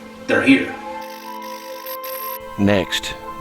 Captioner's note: static fizzing